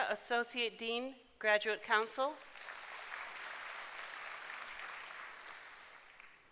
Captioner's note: applause